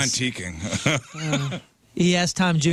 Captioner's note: laughing